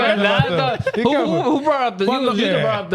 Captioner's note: speaking In Foreign Language